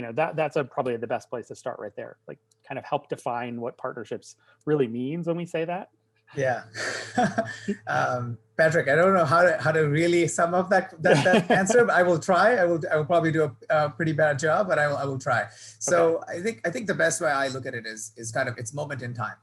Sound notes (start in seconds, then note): 6.4 laughs; 10.7 laughing